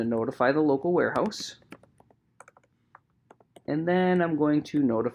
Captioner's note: keyboard clicking